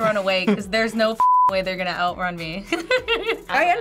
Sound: laughs

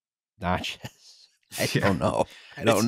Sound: laughing

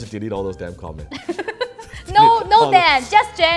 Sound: laughing

